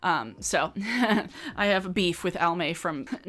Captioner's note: chuckles